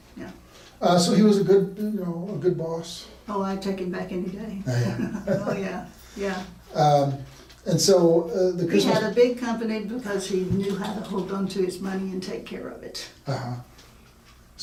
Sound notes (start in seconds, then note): 4.6 laughing